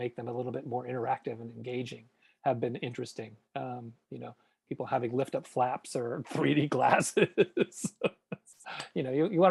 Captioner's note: laughs